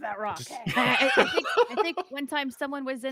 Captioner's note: laughing